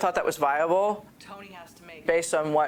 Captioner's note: speaking faintly